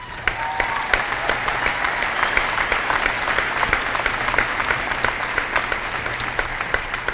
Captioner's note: cheering